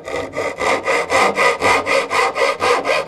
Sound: saw noises

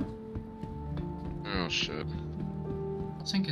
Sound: on the radio

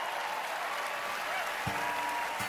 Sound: cheering, applause

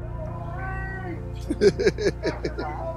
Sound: laughter

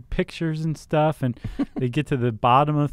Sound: laughing

